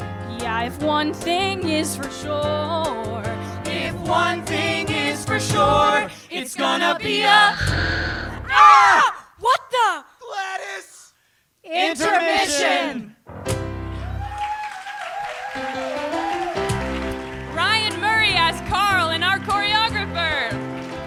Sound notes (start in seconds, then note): 7.6 an off-stage explosion; 14.0 applause; 15.5 upbeat piano music plays